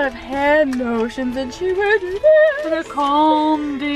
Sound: fluctuates tone of voice

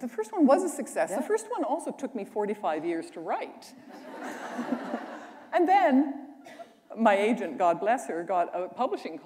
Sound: laughter

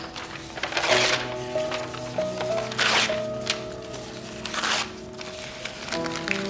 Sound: tearing papers

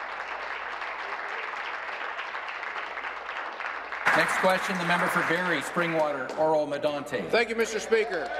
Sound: applause

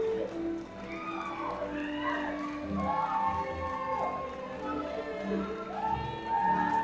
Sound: audience cheering and clapping

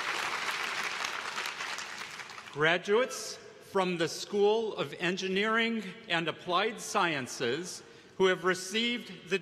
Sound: applause

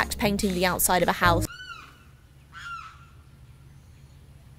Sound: birds squawking

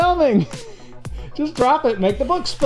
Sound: laughter

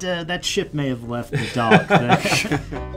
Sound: laugh

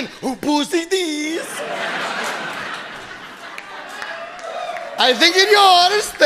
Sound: audience laughing

